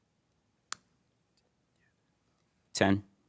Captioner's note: contestants whispering